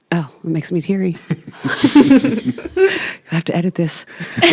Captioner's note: group laughing